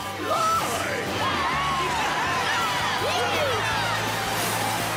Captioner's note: cheering